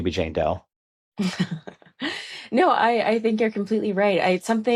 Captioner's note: laughs